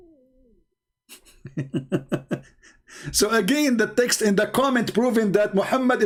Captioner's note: Ketawa